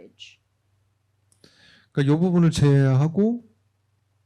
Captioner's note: speaking korean